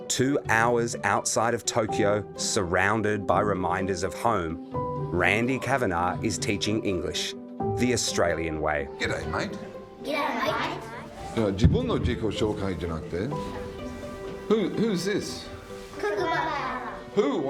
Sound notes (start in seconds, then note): 11.5 speaking Japanese